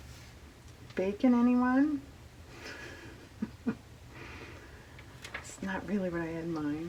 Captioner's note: laughs